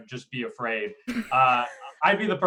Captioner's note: laughs